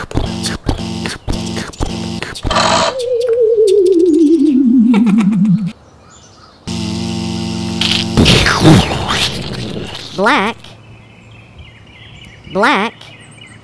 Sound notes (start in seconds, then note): 0.0 pounding footsteps; 2.4 click; 2.5 powering down; 6.6 buzz; 7.8 crunch; 8.2 explosion